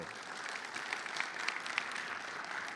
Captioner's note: audience clapping